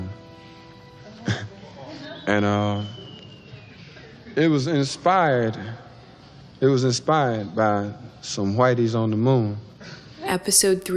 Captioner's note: chuckle